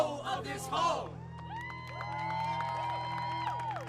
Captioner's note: audience cheering and clapping